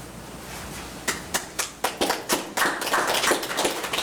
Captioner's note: clapping